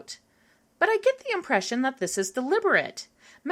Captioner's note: none